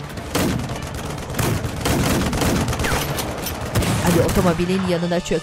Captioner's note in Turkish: Silah sesleri